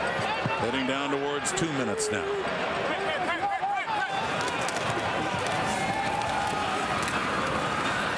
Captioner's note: crowd Noise